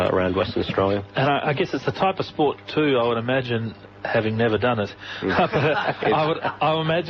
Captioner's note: background laugh